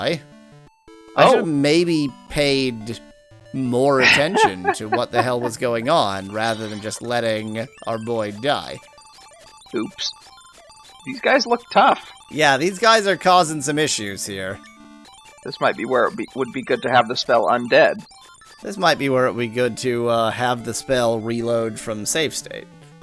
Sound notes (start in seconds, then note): 6.6 laughs